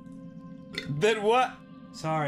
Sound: burps

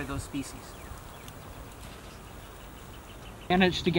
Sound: chirping birds

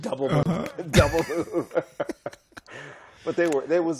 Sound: laughter

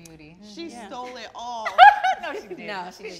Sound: laughs

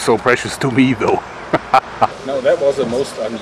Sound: chuckles

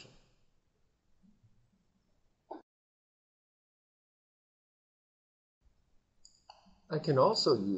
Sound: silence

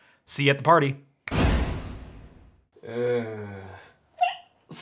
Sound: teleportation swoosh!

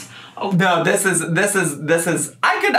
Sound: stammering

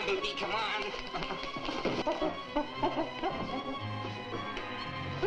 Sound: gorillas chittering

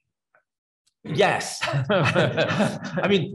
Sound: attendee laughs; laughs

